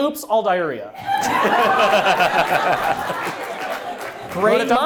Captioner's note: audience laughs